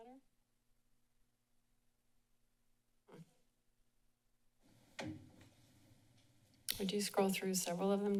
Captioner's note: silence